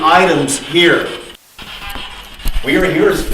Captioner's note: static buzzing